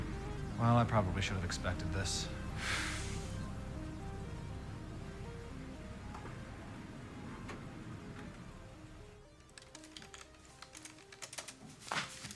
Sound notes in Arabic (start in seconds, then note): 9.3 النقر على مفاتيح لوحة المفاتيح; 11.8 الأقدام ترتطم